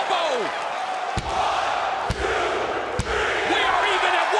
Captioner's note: crowd cheering